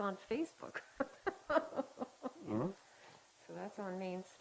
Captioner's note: laughing